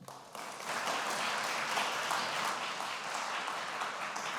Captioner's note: applause